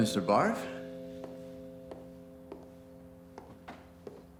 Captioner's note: footsteps tap